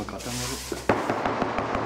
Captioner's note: knocking